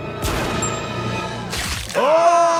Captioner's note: gun firing; bone cracking